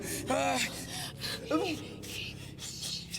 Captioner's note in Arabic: روبرت يئن ويلهث